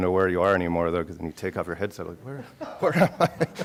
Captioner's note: laughing